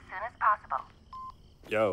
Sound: phone beeps

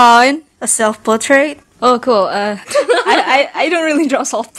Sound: laughs

